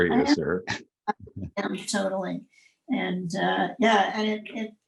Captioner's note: laughs